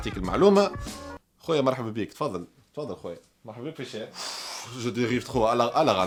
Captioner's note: sigh